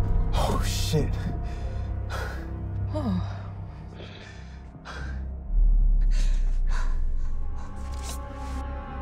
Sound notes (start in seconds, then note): 2.8 Tammie sighs; 5.8 dramatic music